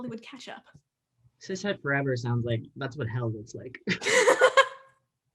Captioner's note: both laugh